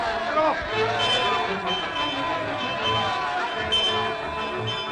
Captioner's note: all cheering; bell ringing